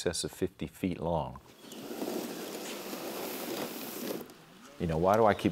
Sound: kayak scraping on sand

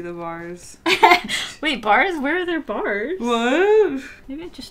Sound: laughs

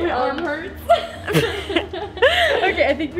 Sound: laughing

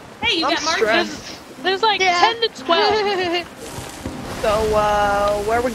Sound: laugh

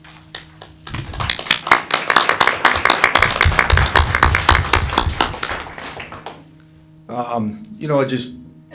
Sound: applause

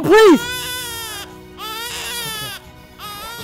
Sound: baby crying

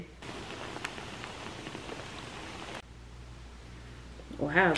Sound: bubbling

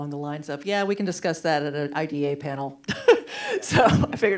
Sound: laughs

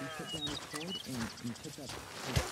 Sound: birds chirping

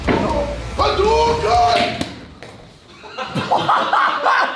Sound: screaming; laughing

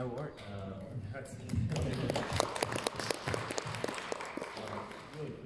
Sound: audience applauding

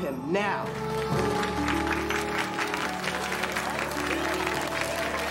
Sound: cheering, Chattering

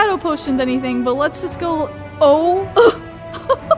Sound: laughs

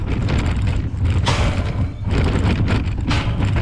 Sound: wheels scraping; gate bangs shut; wheels scraping

